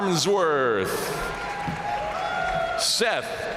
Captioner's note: audience cheering and applauding